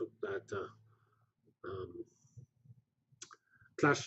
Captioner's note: pause